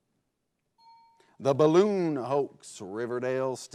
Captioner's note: bell chimes